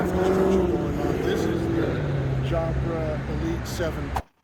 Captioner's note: engine roars loudly